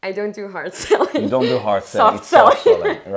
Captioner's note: laughiing